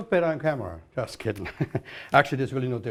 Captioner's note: chuckles